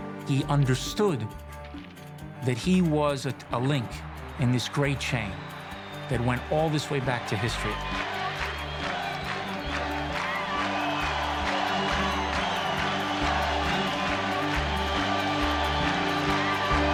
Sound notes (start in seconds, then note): 8.2 crowd; 14.8 tense music